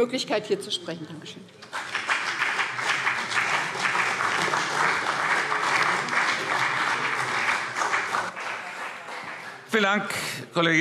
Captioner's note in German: Beifall BÜNDNIS 90/DIE GRÜNEN und CDU